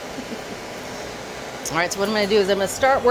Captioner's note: blow torch whooshing